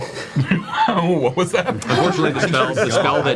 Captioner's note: said extremely quickly; laughs